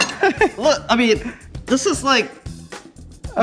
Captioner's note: laughing